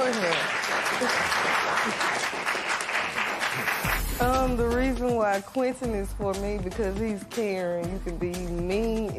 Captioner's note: applause